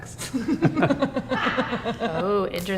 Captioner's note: both laugh